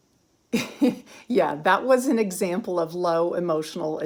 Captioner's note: giggles